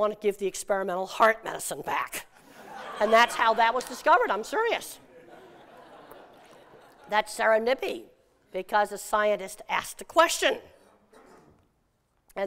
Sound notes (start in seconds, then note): 5.0 laughter